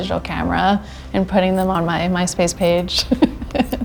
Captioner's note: laughs